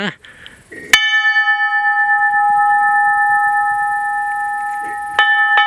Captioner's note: a bell sounds